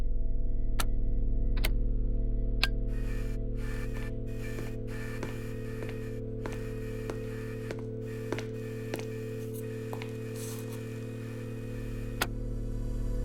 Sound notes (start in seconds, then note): 0.1 buttons clicking; 3.1 tape machine whirring; 6.4 footsteps padding